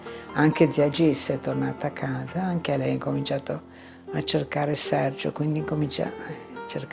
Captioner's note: continues speaking in foreign language